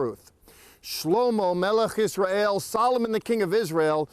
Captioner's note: speaking in Hebrew